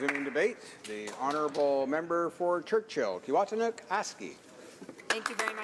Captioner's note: applause